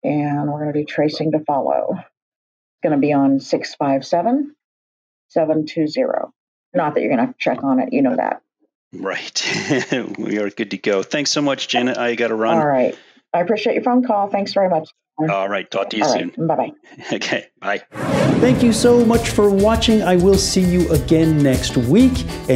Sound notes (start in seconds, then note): 9.0 laughs